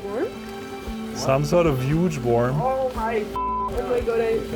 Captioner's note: beeps